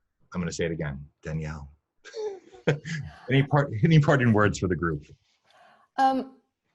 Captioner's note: chuckling